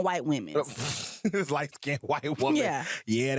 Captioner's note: laughs